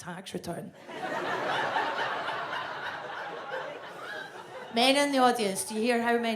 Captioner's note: audience laughs